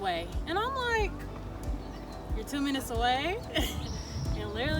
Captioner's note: chuckles